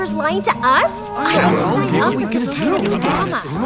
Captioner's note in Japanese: 一同のざわめき